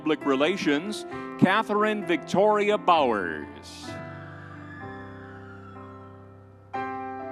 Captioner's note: crowd cheering